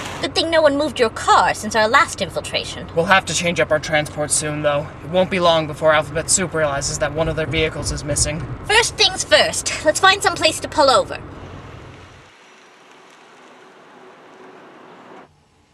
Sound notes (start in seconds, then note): 0.0 electric Car Whirring; 11.3 electric Car Whirring